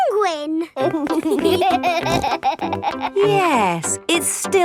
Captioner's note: laughing